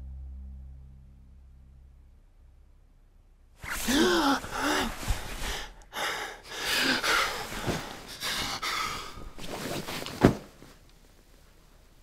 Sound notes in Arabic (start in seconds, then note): 3.8 نيك يلهث